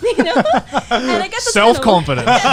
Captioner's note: laughing